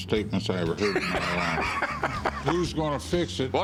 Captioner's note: laughs